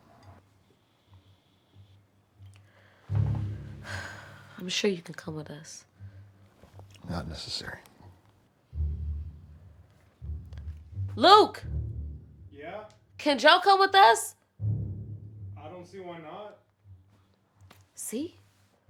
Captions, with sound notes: - (sighs) I'm sure you can come with us. - Not necessary. - Luke. - Yeah? - Can Joe come with us? - I don't see why not. - See?